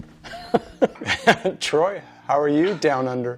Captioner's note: laughs